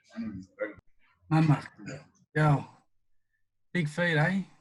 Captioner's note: speaking in Yolŋu